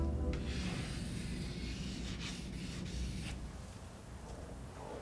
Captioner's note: pencil sketching